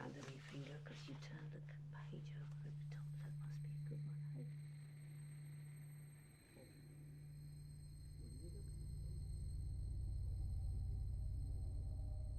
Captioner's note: voice fades away